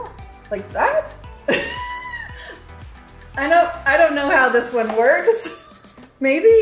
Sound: laughs

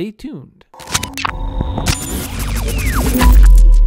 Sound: static noise

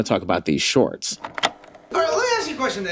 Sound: tape rolling

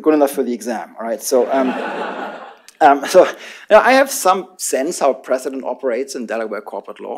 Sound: laughter

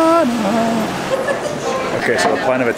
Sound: laughing

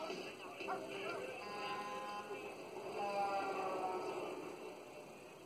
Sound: truck horn honking

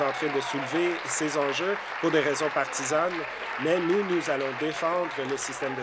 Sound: applause

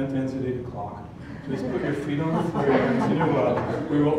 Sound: laugh

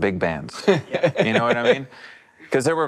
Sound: laughs

